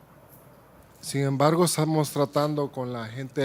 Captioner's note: speaking Spanish